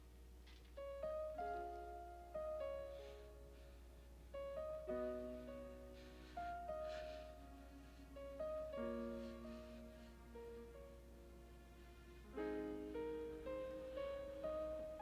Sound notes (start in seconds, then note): 3.2 Eddie breathing heavily